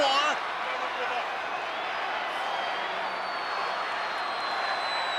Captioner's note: crowd cheering